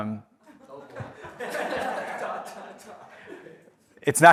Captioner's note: audience laughs